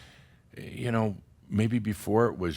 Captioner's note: none